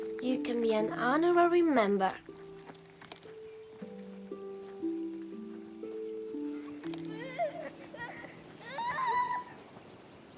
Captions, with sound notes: YOU CAN BE AN HONORARY MEMBER. [LAUGHTER]